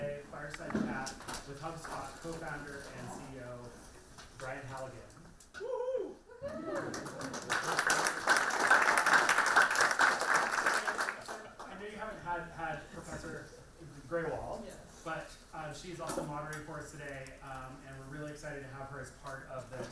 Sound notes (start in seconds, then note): 6.6 applauds